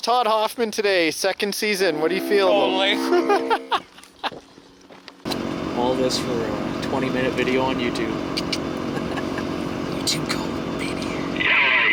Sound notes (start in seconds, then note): 2.9 laughs; 11.7 radio chatter